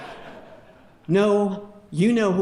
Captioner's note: audience laughing